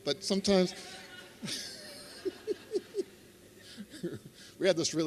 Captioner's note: laughter